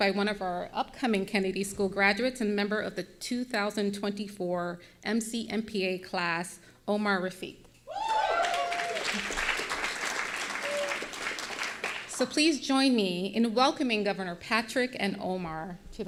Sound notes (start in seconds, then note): 8.0 audience applauding